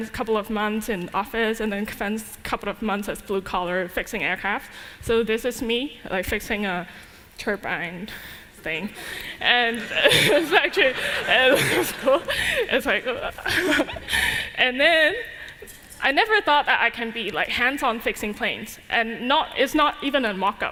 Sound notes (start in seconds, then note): 9.8 laughter